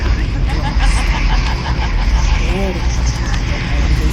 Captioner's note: woman laughing